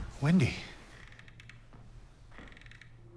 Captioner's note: creaking